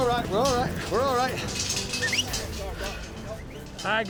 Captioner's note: whistling